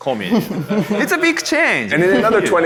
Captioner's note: audience laughs